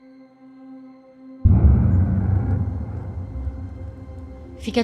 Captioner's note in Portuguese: impacto grave